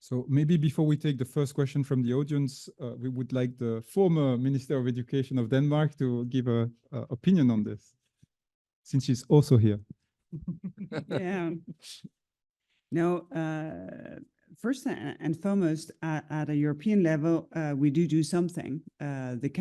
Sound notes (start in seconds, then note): 10.4 laughing